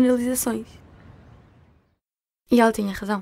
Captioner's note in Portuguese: Silêncio